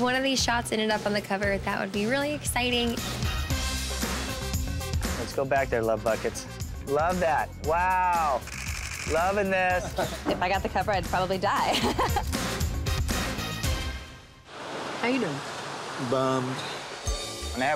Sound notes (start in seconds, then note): 3.3 lively music; 8.4 camera clicks; 13.0 laughs; 17.0 ambient music